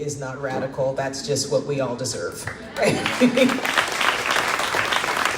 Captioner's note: crowd claps